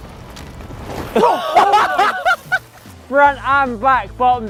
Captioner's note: all laugh